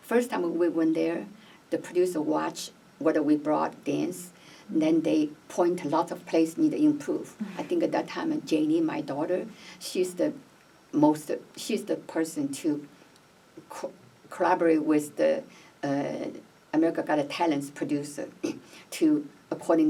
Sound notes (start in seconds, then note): none